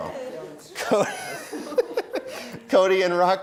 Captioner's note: laughs